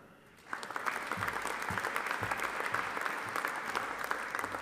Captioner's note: audience applauding